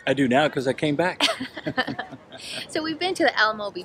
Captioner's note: both laugh